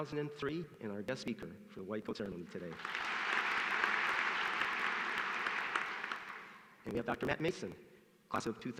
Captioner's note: applause